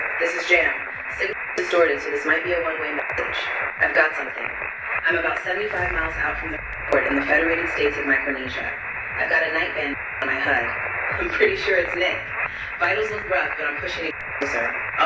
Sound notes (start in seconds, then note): 0.9 static; 6.5 static; 13.9 static